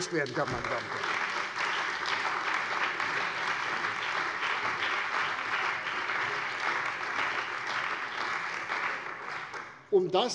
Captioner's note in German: Lebhafter Beifall bei der CDU und dem BÜNDNIS 90/DIE GRÜNEN